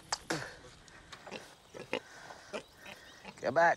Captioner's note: spits; piglets grunt